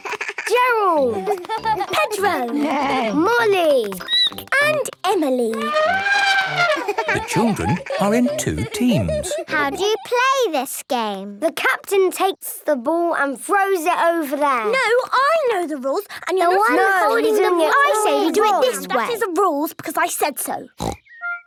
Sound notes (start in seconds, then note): 1.7 neighing; 3.9 squeaking; 5.5 trumpeting